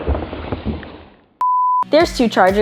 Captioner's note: slow motion audio roaring; beeping